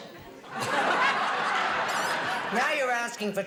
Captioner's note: buzzing